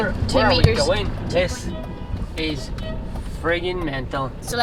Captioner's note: traffic Noises